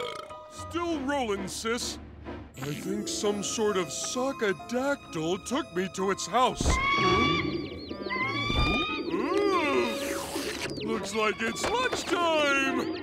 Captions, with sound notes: Still rolling, sis. I think some sort of sock-adactyl took me to its house. [screeching] Ooh! Looks like it's lunchtime!